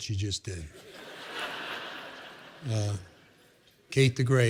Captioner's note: laughter